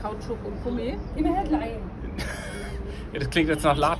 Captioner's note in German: lacht